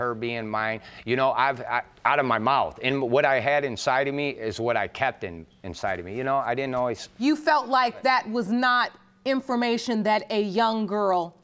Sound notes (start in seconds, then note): none